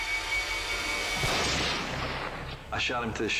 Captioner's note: rifle blasts